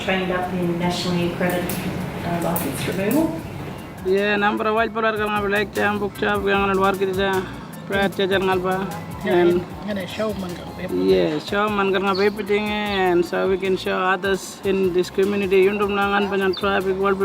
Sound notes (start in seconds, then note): 4.0 speaking Aboriginal language